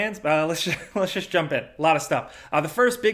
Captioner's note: chuckling